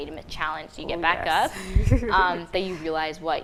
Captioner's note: laughing